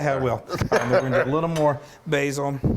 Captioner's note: giggling